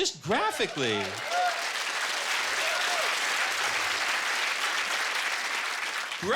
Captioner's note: cheers and applause